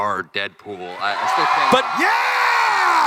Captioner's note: crowd cheering